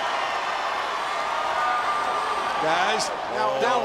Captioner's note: crowd roaring